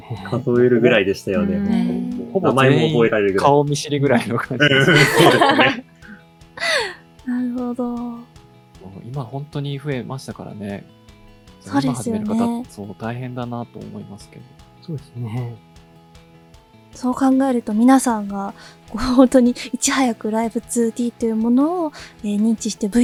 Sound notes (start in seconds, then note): 7.1 chuckles